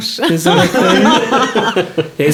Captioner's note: laughing